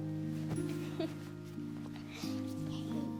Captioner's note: laughing